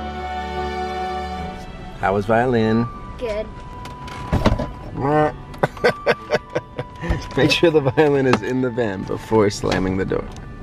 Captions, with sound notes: How was violin? - Good. - (laughs) Make sure the violin is in the van before slamming the door.